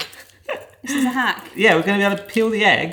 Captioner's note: chuckling